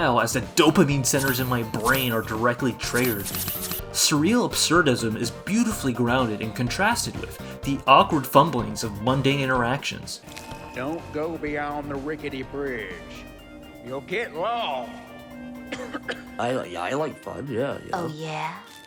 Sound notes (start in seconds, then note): 15.6 coughs